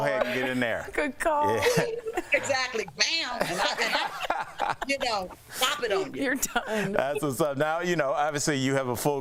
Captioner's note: laughter